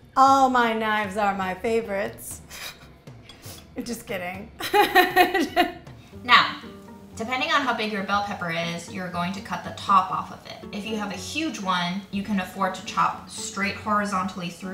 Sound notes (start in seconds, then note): 4.6 laughing